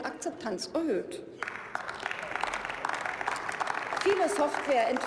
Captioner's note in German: Beifall